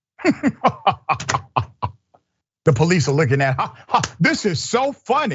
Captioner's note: laugh